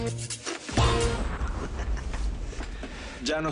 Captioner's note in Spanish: Risas